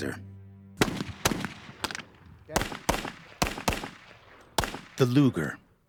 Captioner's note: voiceover; gunfire